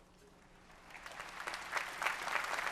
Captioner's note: applause